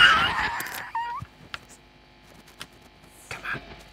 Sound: laughs; noise buzzes

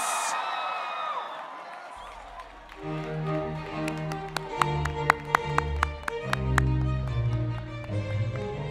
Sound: applause and cheers

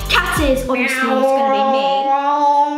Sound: meowing

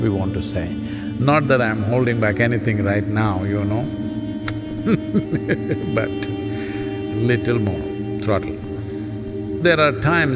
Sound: laughs

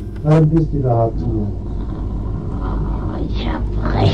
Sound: speaking in German

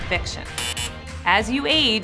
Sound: buzz

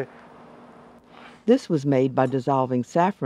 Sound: voiceover

